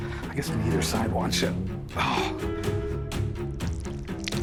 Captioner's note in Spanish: gemidos; música dramática